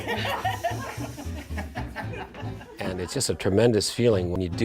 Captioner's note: laughter